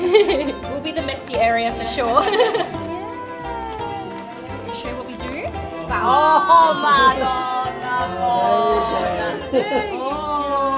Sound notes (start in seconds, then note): 0.0 laughs; 2.0 laughs; 6.1 speaking Italian